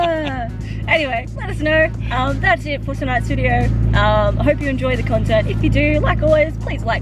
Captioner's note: sighs